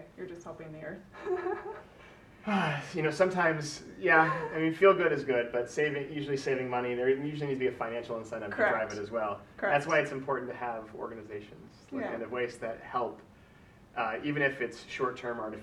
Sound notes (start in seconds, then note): 2.4 sighs; 2.4 laughs